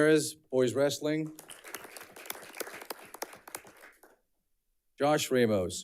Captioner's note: audience clapping